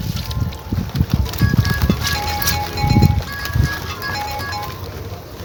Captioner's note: cell phone alert